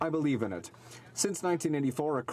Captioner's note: speaking French